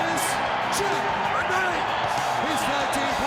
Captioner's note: crowd cheering